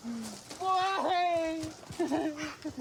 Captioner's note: sobs